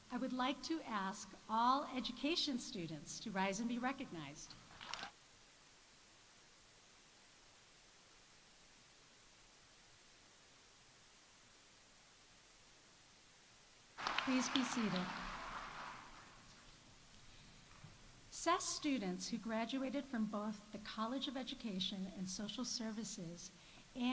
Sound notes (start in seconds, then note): 4.6 audience applauding